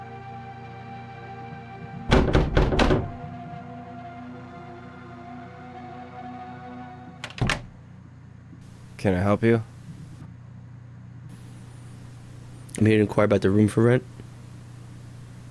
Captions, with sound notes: (loud knock on door) Can I help you? - I'm here to inquire about the room for rent.